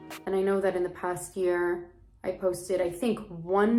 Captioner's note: none